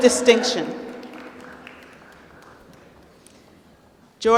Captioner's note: applause